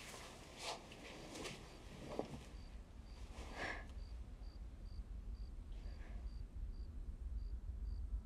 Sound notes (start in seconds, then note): 3.8 crickets chirping